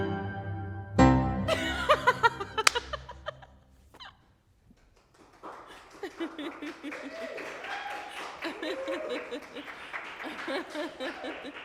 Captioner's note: clapping